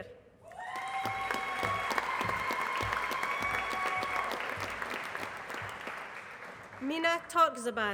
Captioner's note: applause